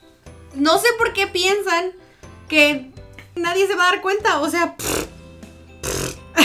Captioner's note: pffft